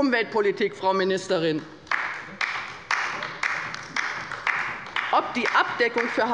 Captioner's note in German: Beifall bei der LINKEN